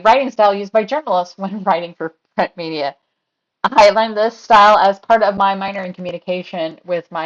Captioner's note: laugh